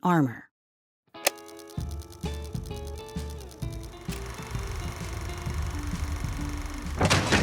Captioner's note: film reel flickers and whirs